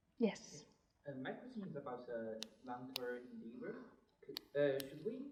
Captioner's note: murmurs